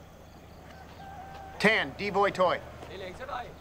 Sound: Vietnamese

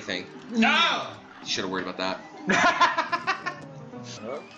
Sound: laughs

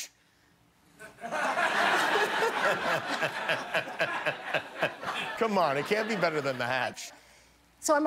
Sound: laughter

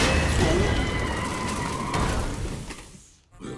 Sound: tires screech; grumbles

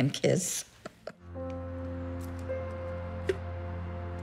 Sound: chuckles; enchanting music playing

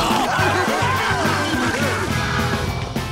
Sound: laughing

